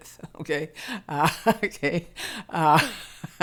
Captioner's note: laughing